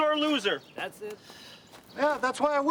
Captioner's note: Rene sighs